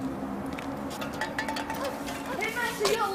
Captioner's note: can rolling